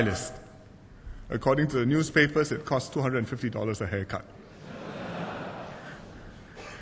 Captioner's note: laughter